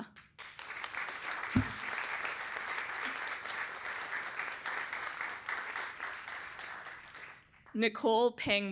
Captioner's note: applause